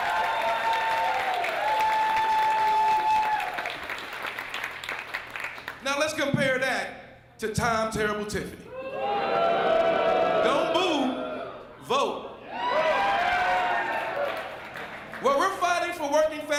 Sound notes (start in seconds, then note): 4.0 applause